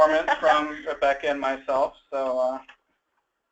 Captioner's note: laughs